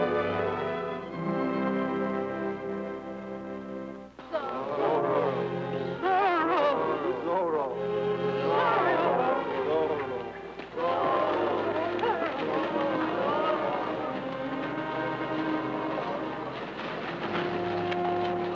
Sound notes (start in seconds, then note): 4.7 crowd; 8.8 crowd; 11.2 crowd; 12.8 melancholic music